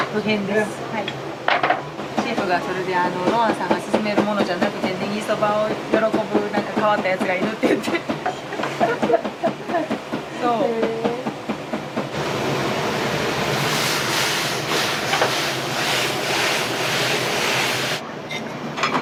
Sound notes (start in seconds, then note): 8.3 laughs